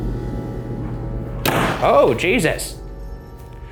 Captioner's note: door slams